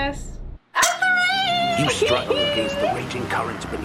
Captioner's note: laughs